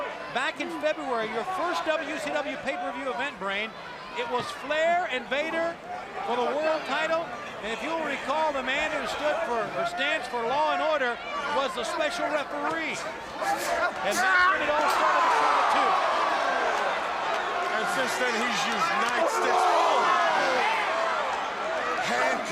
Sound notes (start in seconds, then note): 17.6 crowd chatter